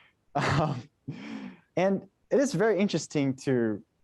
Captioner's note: chuckles